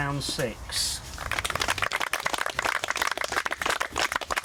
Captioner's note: applause